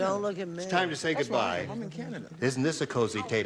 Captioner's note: none